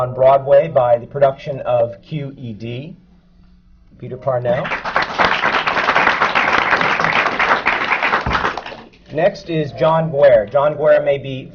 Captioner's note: applause